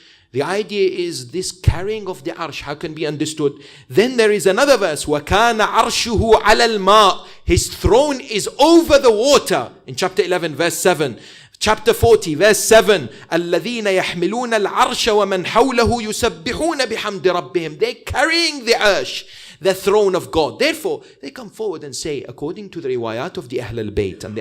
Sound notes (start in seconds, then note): 5.0 arabic - 11:7; 13.2 arabic - 40:7